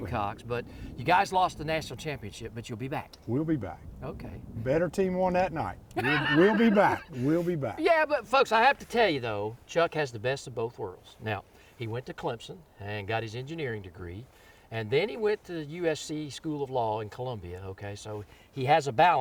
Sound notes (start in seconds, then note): 5.9 laughs